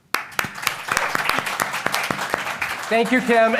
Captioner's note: audience applauding